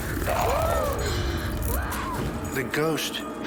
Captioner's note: gasps & screams